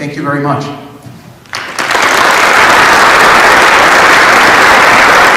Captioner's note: applause